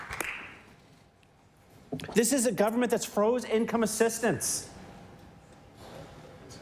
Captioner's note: applause